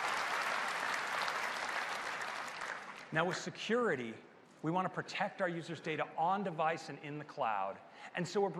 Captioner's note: applause